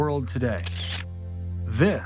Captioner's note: camera flashing